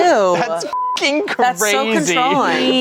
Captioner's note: beep